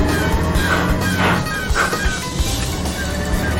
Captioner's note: gears grinding